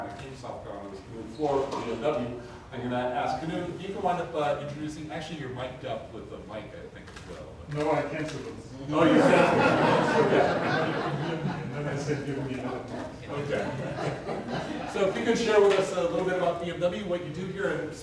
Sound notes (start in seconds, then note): 9.0 crowd laughs; 10.8 audience laughs